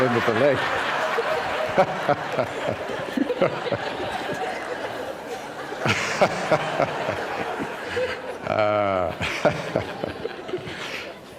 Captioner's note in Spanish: risas